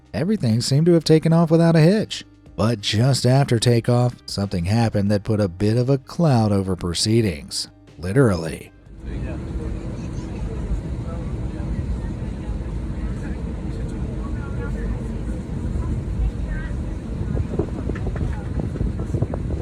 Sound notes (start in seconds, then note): 9.0 engine whirring; 9.0 passengers chattering